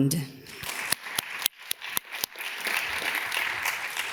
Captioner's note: audience claps